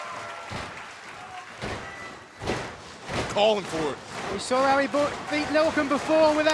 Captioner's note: applause